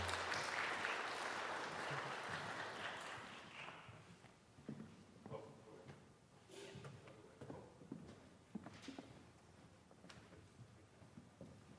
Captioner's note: applause